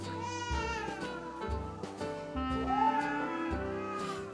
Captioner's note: baby cries